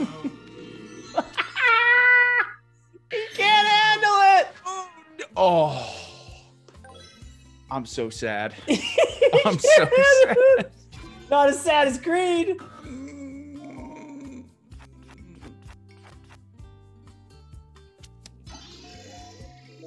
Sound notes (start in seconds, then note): 1.2 laugh; 8.9 laugh